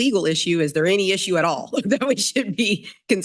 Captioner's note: chuckles